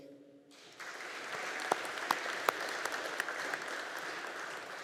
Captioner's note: audience applauding